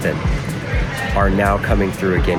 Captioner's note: people chattering indistinctly